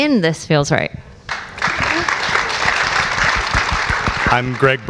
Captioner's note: audience applauds